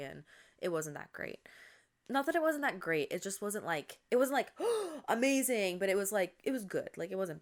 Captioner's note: gasps